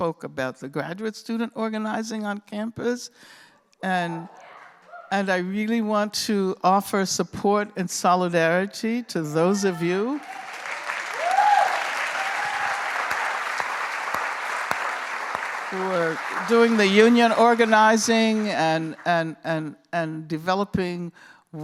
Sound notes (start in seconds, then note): 3.9 cheering; 10.0 cheering and applause